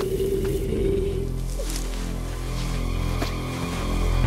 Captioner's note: Growling Continues